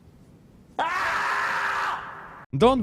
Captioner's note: ahhhhhhhhhhhhhhhhhhhhh